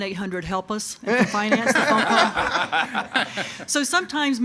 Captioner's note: audience laughing